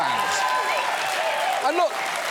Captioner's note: audience cheers